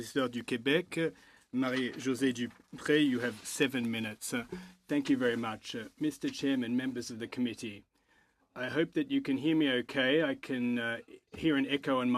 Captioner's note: french